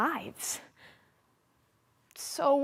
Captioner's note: soft breathing